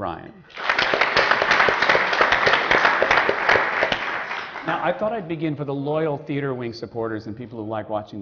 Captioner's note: applause